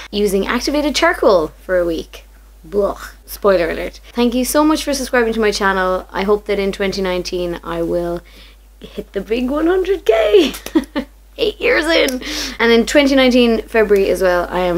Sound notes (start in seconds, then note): 10.4 laughs